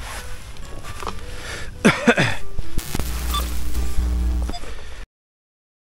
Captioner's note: cough; squeaks